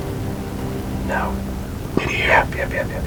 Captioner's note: whispering